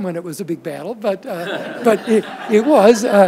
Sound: audience laughs

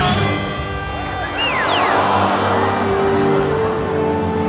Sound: crowd groans

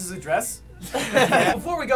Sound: laughter

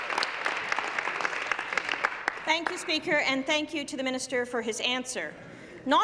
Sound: applause

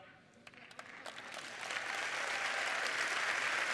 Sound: applause

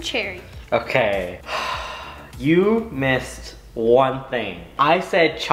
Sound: sighs

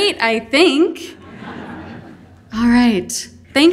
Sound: audience laughing

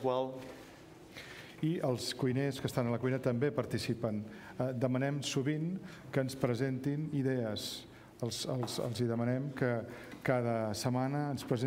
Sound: speaking catalan

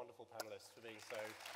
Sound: audience applause

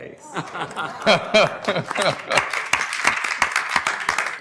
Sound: audience applauds

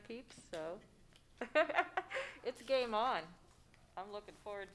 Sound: laughs

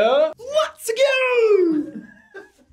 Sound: React laughs

